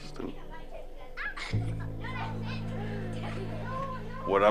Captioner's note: children talking in background